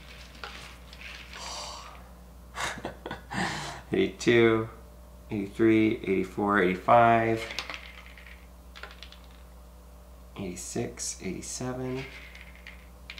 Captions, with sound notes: (sighs) (chuckling) 82, 83, 84, 85, 86, 87,